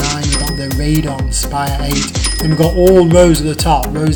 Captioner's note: dings